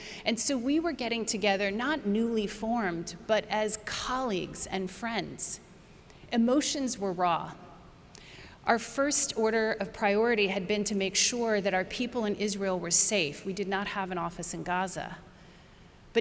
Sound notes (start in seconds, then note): none